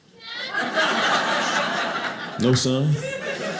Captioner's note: audience laughing